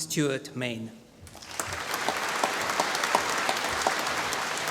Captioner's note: applause